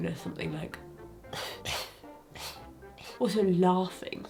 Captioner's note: spits